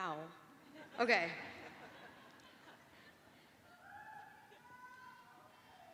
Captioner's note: laughter; cheering